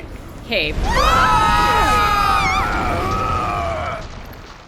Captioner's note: screams